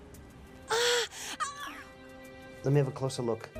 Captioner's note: Lucia moans